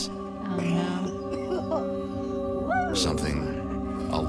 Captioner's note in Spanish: gente tosiendo